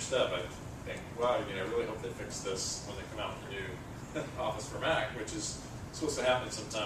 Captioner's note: laugh